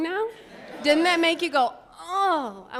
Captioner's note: audience laughing